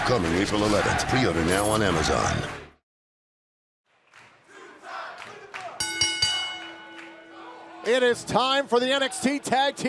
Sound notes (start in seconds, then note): 4.4 fans chanting; 5.8 bell ringing